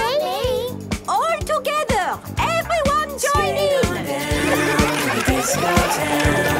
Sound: laughter

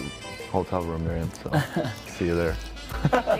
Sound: laughter; awkward laugh

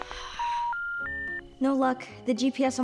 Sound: phone beeping

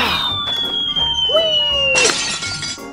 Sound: wind swooshing; glass crashing

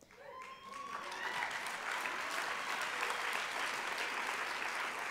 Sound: applause

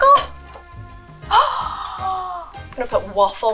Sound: gasps

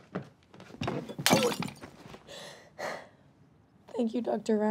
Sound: glass shattering

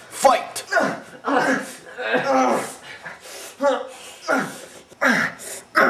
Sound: grunting and wincing

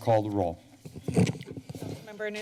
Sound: mic sound

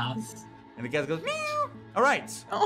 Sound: cat meows

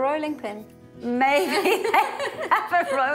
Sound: laughing

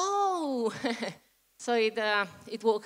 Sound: laugh

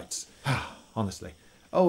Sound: sigh

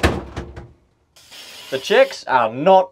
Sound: spraying

